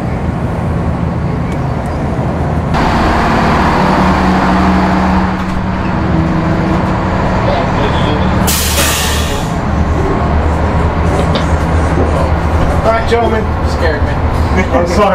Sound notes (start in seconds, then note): 3.1 boat roars; 8.8 machinery sputters; 14.9 laughs